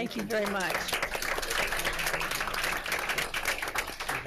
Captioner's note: applause